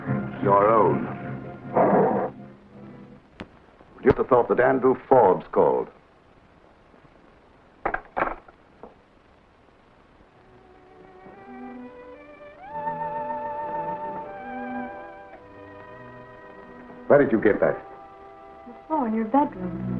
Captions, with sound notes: Your own. (serpent growls) Would you have thought that Andrew Forbes called? (phone receiver clicks) (gentle music) Where did you get that? - The floor in your bedroom.